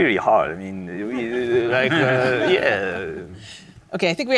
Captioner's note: audience laughs